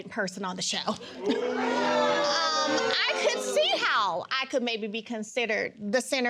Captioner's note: audience exclaiming